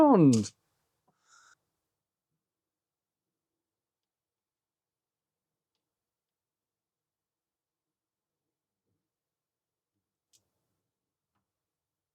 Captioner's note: silence